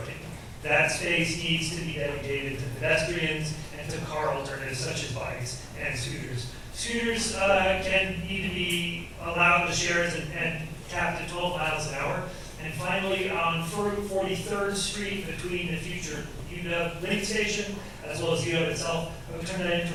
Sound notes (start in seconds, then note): none